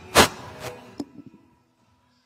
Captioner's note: microphone thudding; microphone pops